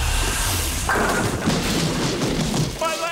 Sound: thudding

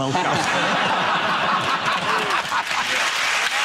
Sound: audience laughs; audience applauds

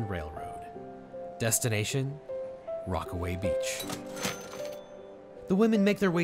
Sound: cash register dings

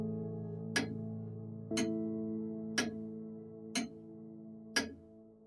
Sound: grandfather clock ticking

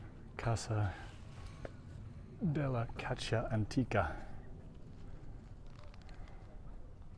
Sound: background chatter

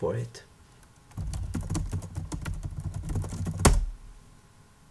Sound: typing noises

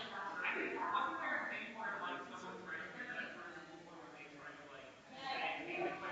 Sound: people chattering distantly continues

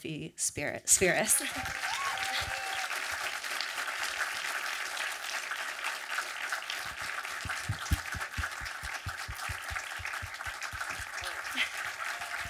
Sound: audience applause and cheering

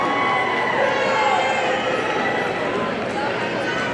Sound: audience cheering

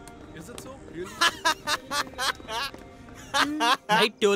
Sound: laughing

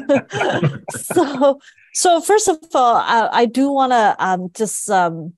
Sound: laugh

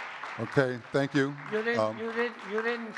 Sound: audience clapping

